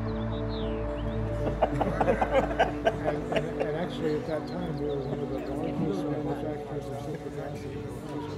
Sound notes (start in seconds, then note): 1.3 laughing